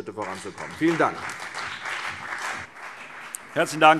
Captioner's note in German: Beifall CDU und vereinzelt BÜNDNIS 90/DIE GRÜNEN